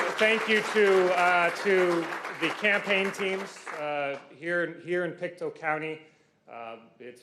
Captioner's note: applause